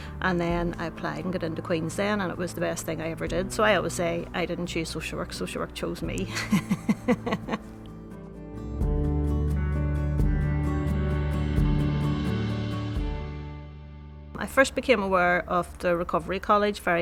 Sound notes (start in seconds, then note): 6.2 laughs